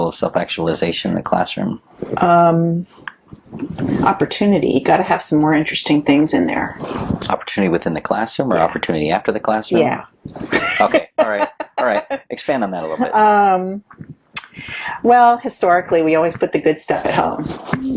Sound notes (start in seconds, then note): 10.3 laughs